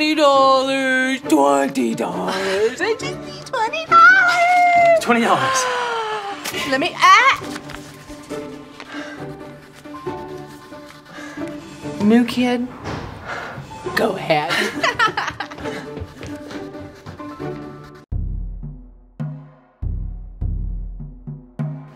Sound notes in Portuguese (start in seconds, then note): 14.5 Risos; 18.1 Tambores